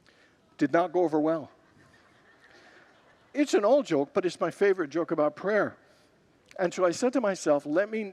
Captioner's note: congregants laugh